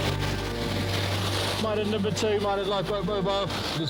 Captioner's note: suspenseful instrumental music; audio hissing